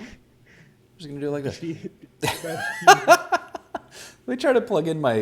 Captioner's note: laughs; laughs